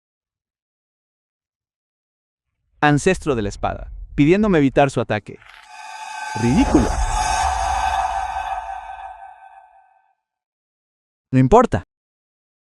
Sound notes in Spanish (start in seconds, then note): 10.3 suspiro